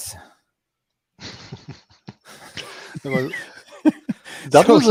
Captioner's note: laughing